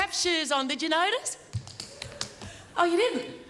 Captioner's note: tapping